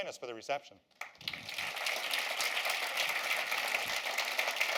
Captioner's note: applause